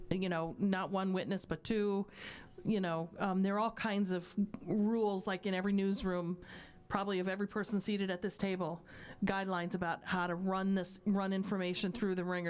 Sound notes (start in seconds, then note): none